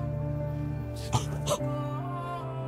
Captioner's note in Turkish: Öksürüyor